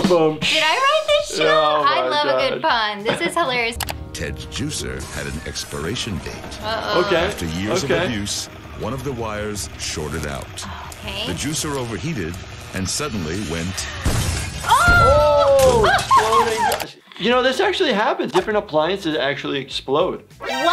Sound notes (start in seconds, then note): 14.3 juicer cracks